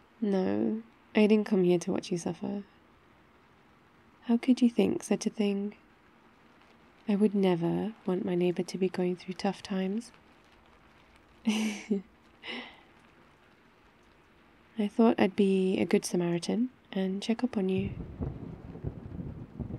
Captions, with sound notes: no... I don't come here to watch you suffer how could you think such a thing? I would never want my neighbour to be going through tough times *laughs* I thought I'd be a good samaritan and check up on you